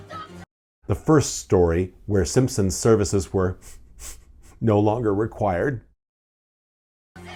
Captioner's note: sniff